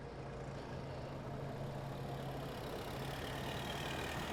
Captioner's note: car approaching